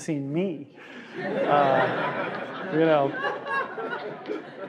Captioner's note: laughing